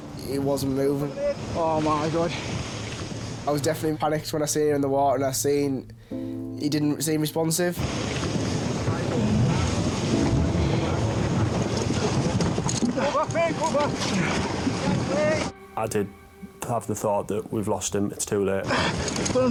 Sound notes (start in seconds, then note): 7.7 waves roaring